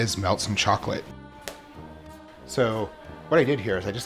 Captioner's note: snaps